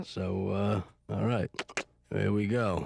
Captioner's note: clicks tongue